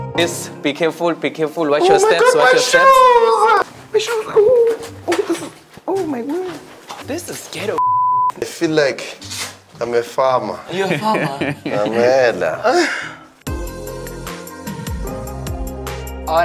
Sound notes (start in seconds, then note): 5.0 crying; 13.8 mellow music